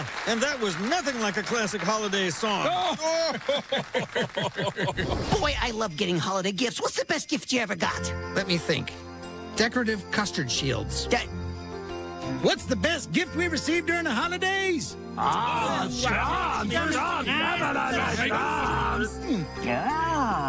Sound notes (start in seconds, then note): 2.6 both laugh